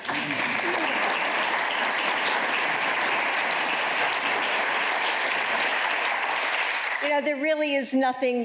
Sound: applause

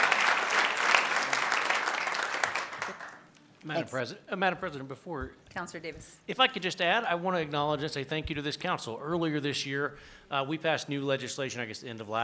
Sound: applause

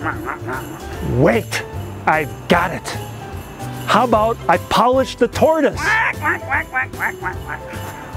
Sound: quack, quack, quack, quack, quack

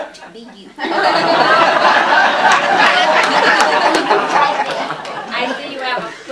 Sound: laughter

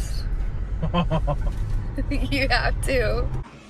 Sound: man laughs

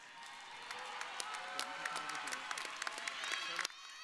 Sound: audience cheering

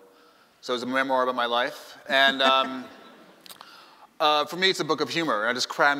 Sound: laughing

